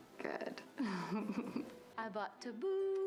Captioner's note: laughs